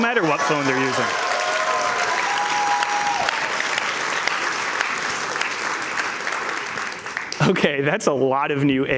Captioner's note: cheers and Applause